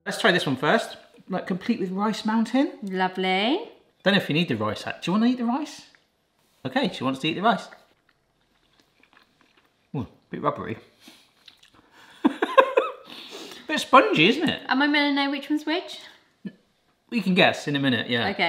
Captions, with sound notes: Let's try this one first. Like, complete with rice mountain. - Lovely. - Don't know if you need the rice. Do you wanna eat the rice? Okay, she wants to eat the rice. (munching) Oh, bit rubbery. (laughing) Bit spongy, isn't it? - Am I meant to know which one's which? - You can guess in a minute, yeah.